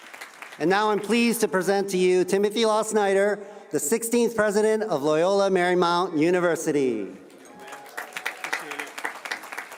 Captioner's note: applause